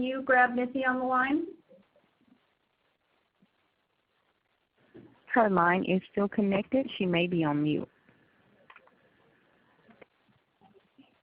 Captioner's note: silence in Audio